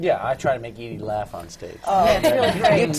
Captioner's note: laughter